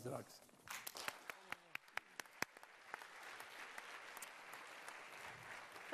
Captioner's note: applause